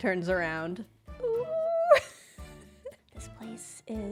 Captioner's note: laughs